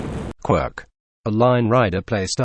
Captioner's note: text to speech